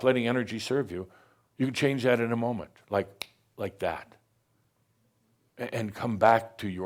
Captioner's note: snap!